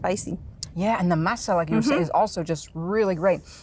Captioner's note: foreign language